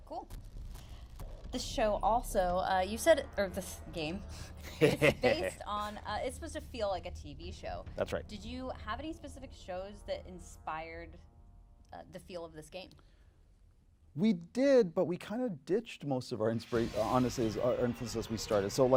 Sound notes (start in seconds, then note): 4.6 laughing